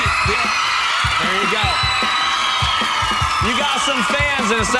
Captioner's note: girls cheering